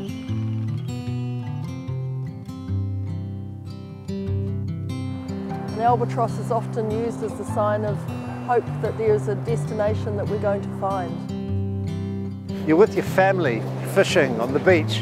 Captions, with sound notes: [albatross sounds] Albatross is often used as a sign of hope that there is a destination that we're going to find. You're with your family fishing on the beach,